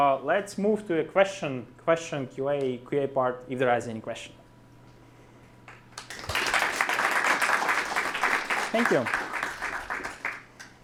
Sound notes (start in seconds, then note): 5.9 applause